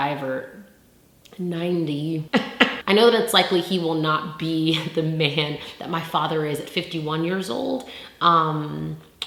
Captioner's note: laugh